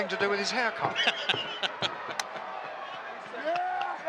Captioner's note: laughs